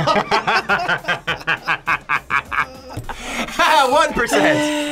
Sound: group laughs

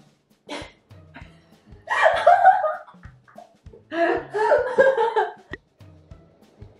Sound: both laugh

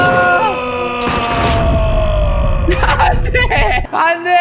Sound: an artistic explosion

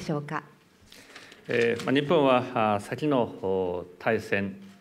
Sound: speaking japanese

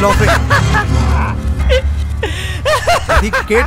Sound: Pradhik continues laughing

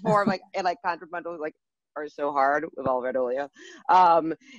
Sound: laughing, indistinct speech

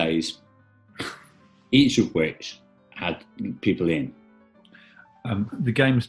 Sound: chuckles

